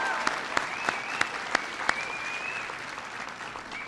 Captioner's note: applause